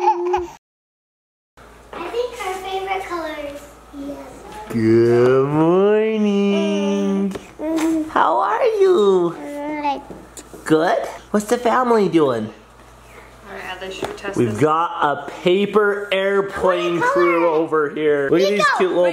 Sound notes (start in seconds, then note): 0.1 giggles; 7.0 gurgles